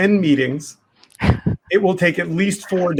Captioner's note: laughs